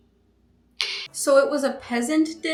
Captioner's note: tongue click